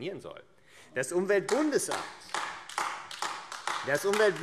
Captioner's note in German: Beifall AfD